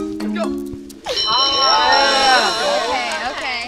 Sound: bell rings; everyone exclaiming

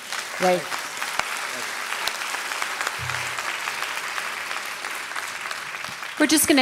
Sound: applause

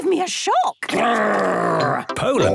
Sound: loud growls

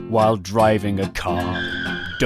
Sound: tyres screech

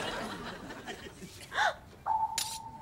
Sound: <i>gasps

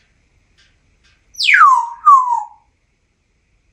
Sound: whistles

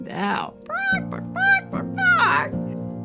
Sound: makes chicken noises

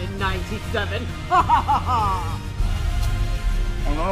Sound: maniacal laugh

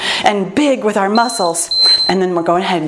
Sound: timer beeps

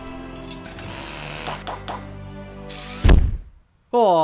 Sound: metal clanking; leg thuds

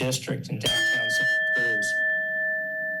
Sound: bell dings

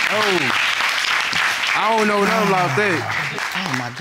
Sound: audience applauding

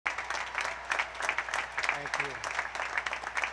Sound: applause

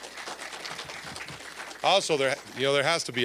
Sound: applause

